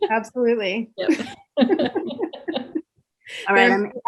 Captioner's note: laughs